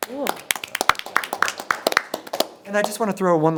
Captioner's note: people applauding